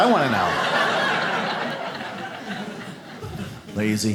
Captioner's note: audience laughs